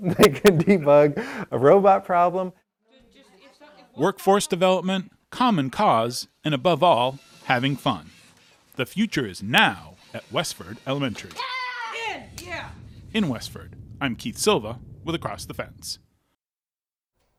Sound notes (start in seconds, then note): 3.0 kids chatting; 11.2 machine whirring; 11.2 kids cheering